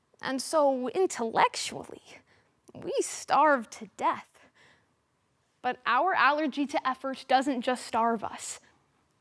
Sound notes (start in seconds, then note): 4.5 sharp breath